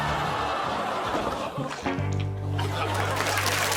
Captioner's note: audience exclaiming